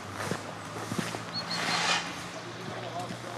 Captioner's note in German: Vogelgezwitscher